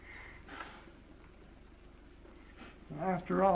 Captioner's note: Esther's nose blows